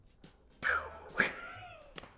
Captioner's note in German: macht Pistolengeräusch